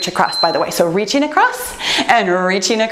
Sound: timer beeps

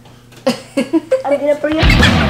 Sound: laughing

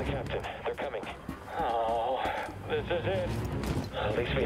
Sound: despondent groan

